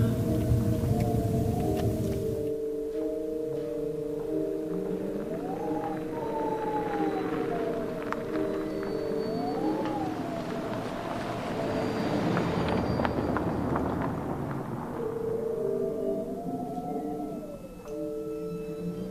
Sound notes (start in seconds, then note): 4.1 eerie music; 4.1 wind whistling